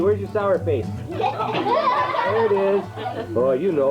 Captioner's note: laughing